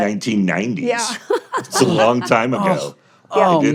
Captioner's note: laughs